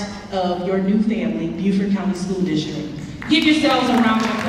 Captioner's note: clapping